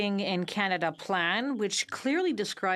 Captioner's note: speaking in French